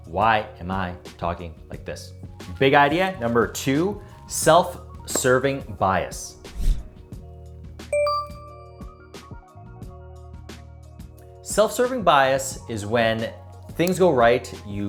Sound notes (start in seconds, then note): 7.9 bell rings